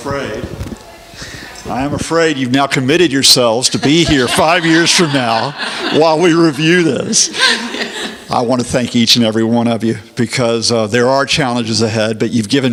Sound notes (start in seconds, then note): 7.9 laughing